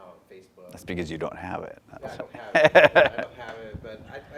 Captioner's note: laughs